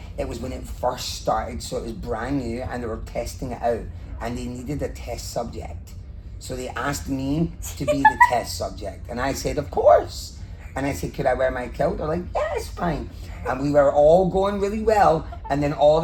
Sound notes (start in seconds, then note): 7.7 laugh